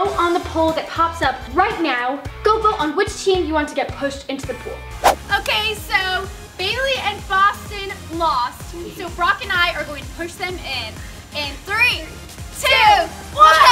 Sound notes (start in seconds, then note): none